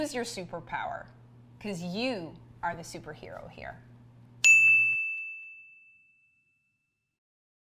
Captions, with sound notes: User your superpower, 'cause you are the superhero here. (bell dings)